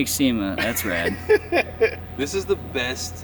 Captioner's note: man laughing